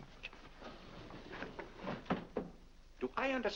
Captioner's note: doors slide shut